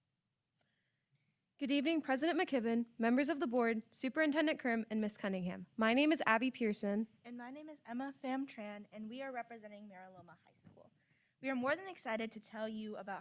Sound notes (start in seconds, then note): none